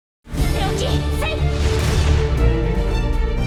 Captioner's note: yelling